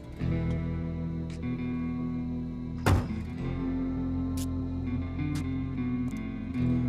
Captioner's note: feet scuffing